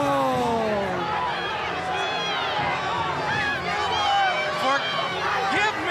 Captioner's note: crowd cheering